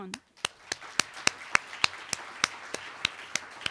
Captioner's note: applause